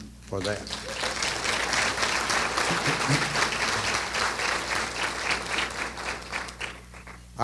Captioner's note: applause